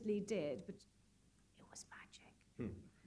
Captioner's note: whispering